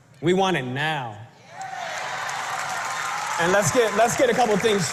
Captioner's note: applause